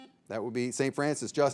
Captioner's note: signal beeps